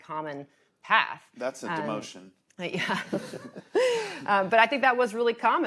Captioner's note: laughs